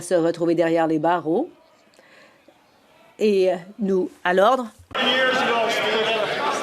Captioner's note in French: voix de l'interprète